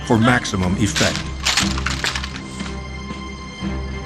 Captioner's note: firearms clack